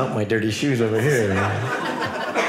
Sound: audience laughing

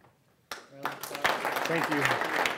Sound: applause

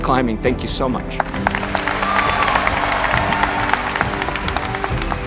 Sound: crowd cheering

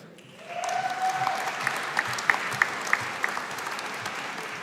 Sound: audience applauding

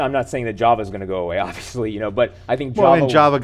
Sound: laughing

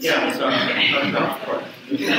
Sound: audience chuckles

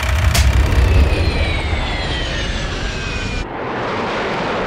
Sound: film rolling sound; jet roaring

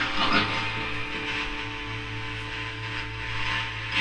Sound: radio noise hissing

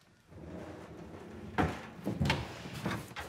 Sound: sliding door opens

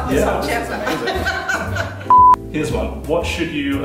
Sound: laughter

